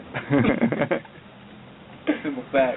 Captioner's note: soldiers laughing